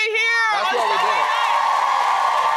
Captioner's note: audience applauding